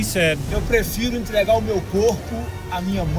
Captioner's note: speaking Portuguese